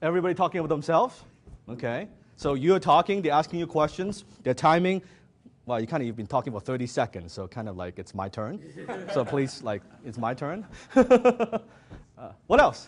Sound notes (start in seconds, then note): 8.6 audience laughs; 11.9 laughs